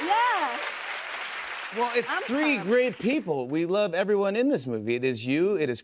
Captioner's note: cheers and applause